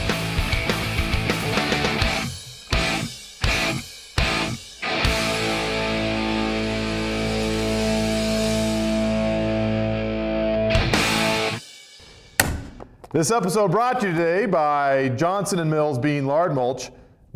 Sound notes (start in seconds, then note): none